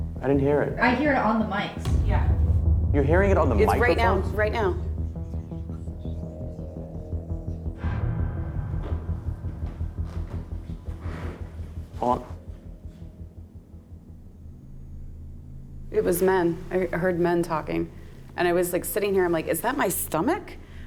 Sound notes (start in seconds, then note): 5.0 whispering; 7.4 ominous music